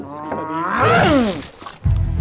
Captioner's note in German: Knurrender Laut